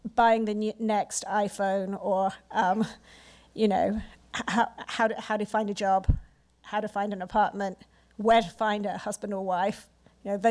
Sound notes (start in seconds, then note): none